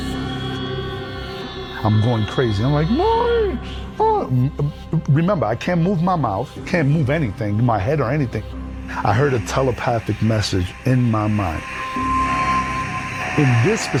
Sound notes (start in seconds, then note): 0.1 tense eerie music; 4.1 yelping; 11.9 tense eerie music